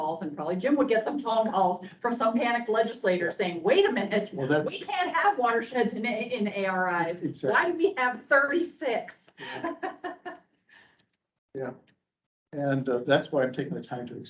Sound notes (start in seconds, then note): 9.3 laughs